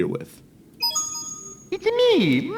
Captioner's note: ba-ding!